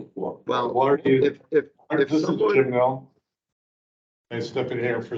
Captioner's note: indistinct chatter